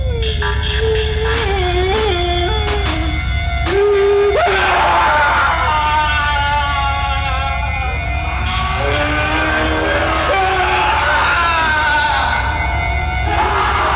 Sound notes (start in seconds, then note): 0.8 Casey crying; 4.2 Casey screaming